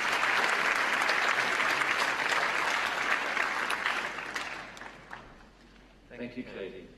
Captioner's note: cheers & applause